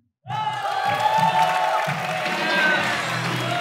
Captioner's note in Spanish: Aplaudir